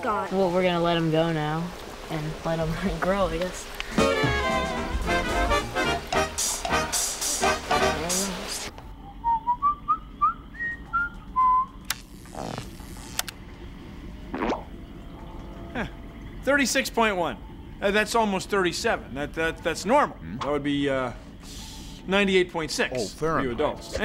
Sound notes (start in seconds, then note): 8.9 whistling; 11.8 electricity crackling